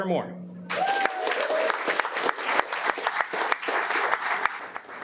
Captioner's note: audience applauding